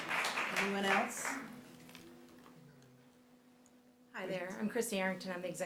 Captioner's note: applause